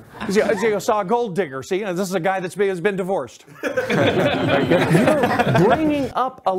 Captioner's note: laughter